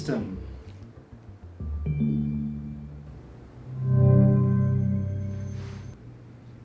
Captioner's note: Sonos Move 2 making start up and connection sounds